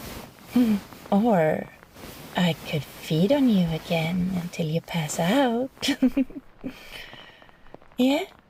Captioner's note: she giggles